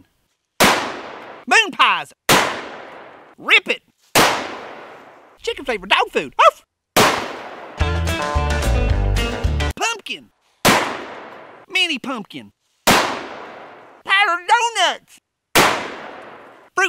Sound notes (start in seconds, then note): 0.6 gun fires; 6.4 dog yelps; 6.9 gun fires; 7.7 upbeat country music; 10.6 gun fires; 12.8 gun fires; 15.5 gun fires